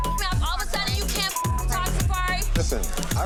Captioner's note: beep